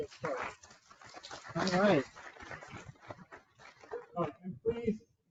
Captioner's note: participants applauding